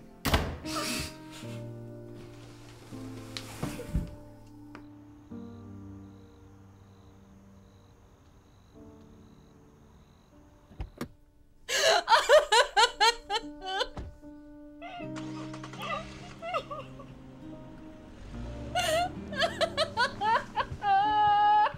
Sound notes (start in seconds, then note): 0.7 Monica crying; 15.1 engine starting; 19.0 car drives off